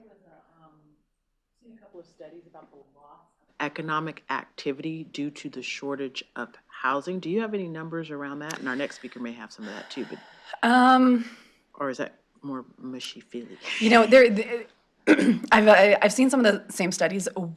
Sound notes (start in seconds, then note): 13.4 laughter